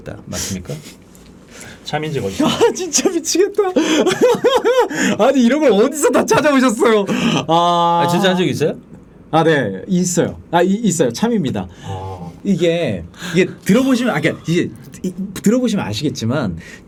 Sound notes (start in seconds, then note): 11.7 sighing; 12.5 laughing